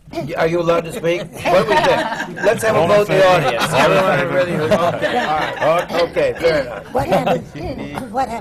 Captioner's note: laughter